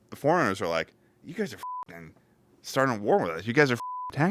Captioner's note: beep